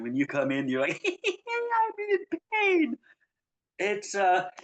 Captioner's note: laughs